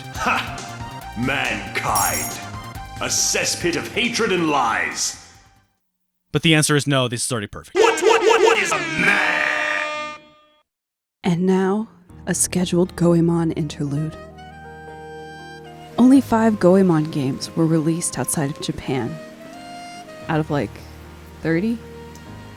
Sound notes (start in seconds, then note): 8.4 airhorns